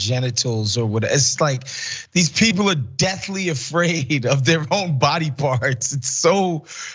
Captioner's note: laugh